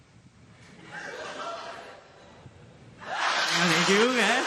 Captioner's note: scattered laughter